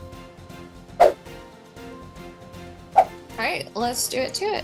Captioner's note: air whooshes